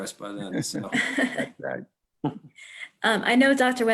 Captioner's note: everyone chuckles